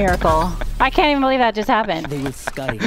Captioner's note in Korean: 웃음